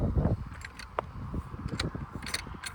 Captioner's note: gate clanking